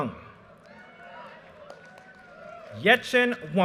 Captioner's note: audience cheers and applause